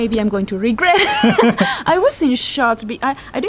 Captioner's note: laughs